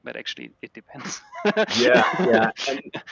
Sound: laughs

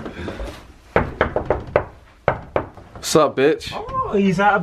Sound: door knocking

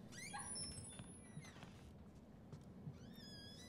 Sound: door squeaks

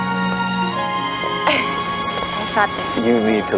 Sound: Meg laughs

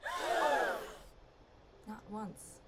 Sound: crowd gasps

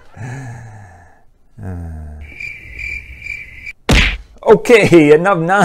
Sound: sigh; cricket sounds

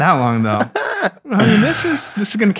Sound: laughs

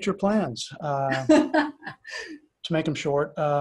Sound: laughs

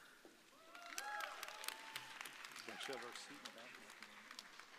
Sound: audience cheering

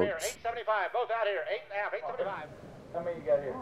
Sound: auctioneering

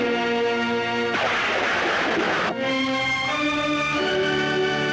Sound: thunder Rumbling

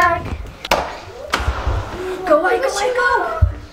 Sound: door opening

